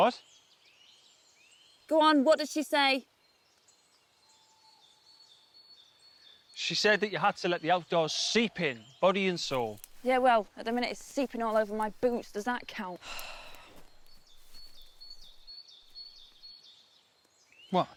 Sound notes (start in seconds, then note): 13.1 Jim sighing; 15.2 birds chirping